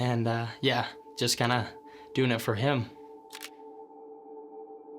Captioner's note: camera shuttering